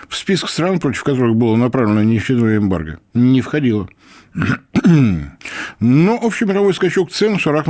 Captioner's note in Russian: откашливается